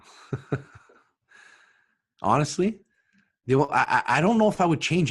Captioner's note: chuckles